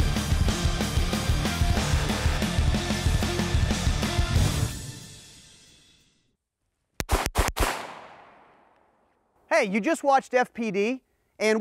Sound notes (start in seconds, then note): 7.0 gunshot sound